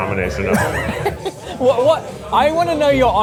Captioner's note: laughs